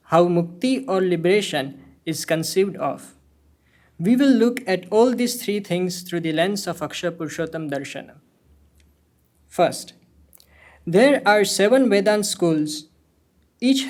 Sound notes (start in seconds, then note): 8.2 speaking hindi